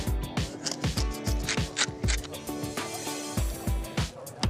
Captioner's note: mill grinding